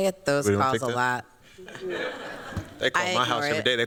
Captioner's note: laughter